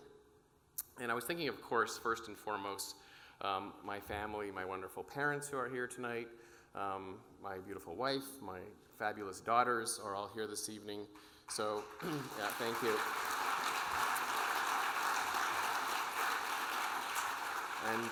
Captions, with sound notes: And, I was thinking of course, first and foremost, my family, my wonderful parents, who are here tonight, my beautiful wife, my fabulous daughters, are all here, this evening. (audience applauding) Yeah, thank you.